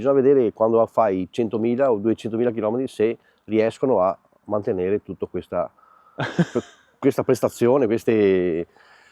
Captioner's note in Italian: risate